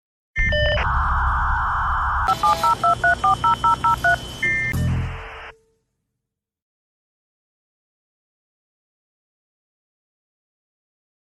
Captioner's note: modem s static